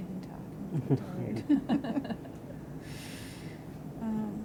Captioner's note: laughter